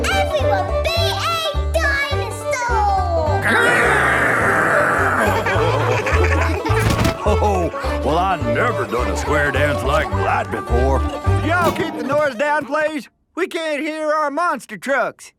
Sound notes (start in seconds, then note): 3.5 laughing